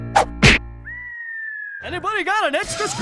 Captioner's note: hawk screeching